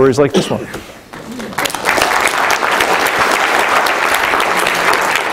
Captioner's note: applause